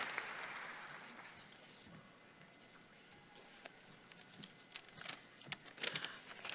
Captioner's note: applause